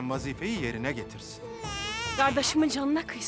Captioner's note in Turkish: Bebek ağlama sesi